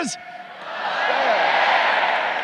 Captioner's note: crowd